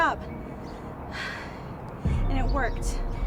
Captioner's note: Lyla sighs